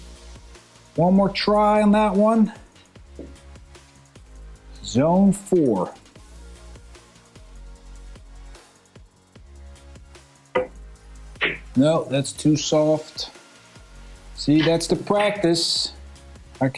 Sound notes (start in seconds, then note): 6.7 lively music; 10.8 balls clanging